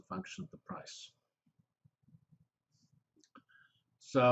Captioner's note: pause